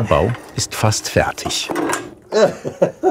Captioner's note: clattering, laughing